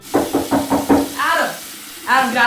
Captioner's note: knocking on door